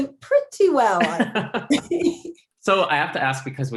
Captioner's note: laughing